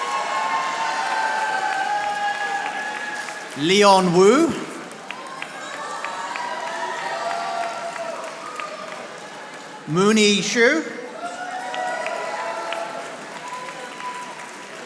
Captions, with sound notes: (audience applauding) Leon Wu. (audience applauding) Moonie Zhu. (audience applauding)